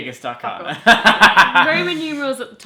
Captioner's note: laughs